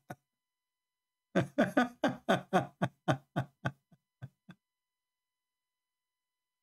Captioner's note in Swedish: Skratt